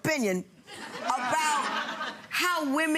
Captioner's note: audience laughs